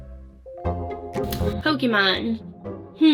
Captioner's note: lip smack